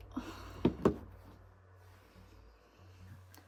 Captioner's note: Emma sighing